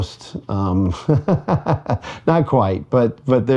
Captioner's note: laughing